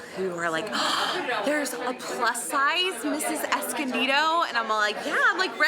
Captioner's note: gasps